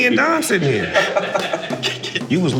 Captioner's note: laughing